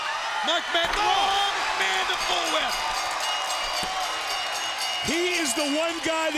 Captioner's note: bell dings